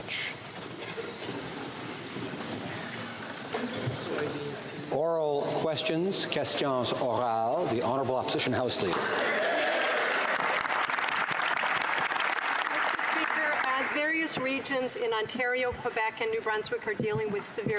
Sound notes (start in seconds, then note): 9.4 speaking French; 12.3 some Applause